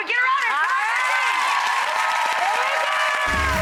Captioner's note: audience cheers and applauds